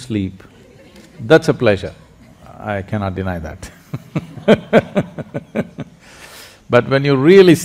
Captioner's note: laughs